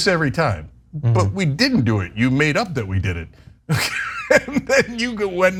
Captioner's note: laugh